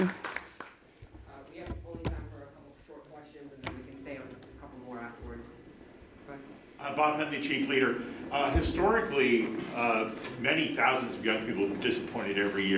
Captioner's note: applause